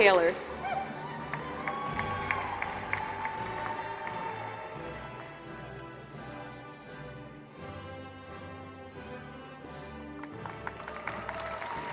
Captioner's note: applause